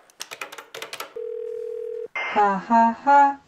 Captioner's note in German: Freizeichen